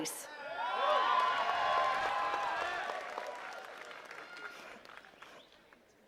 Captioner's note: attendees cheering and clapping